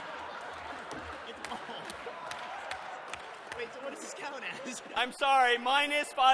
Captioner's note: laughter